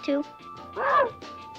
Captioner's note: Arrow barks